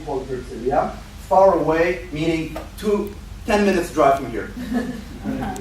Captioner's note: laughter